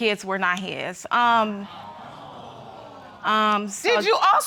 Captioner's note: audience exclaiming